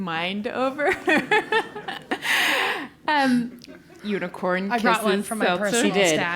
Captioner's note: laugh